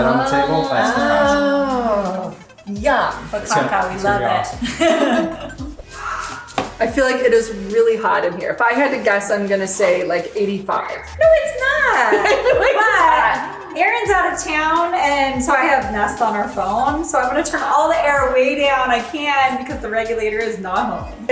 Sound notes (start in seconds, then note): 4.6 laughing